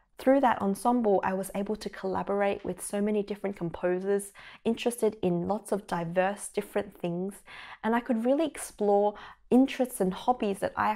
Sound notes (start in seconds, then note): none